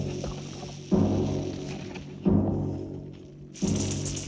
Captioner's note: sizzling